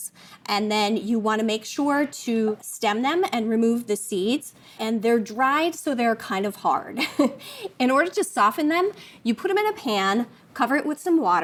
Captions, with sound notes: And then you want to make sure to stem them and remove the seeds. And they're dried so they're kind of hard. (chuckles) In order to soften them, you put them in a pan, cover it with some water,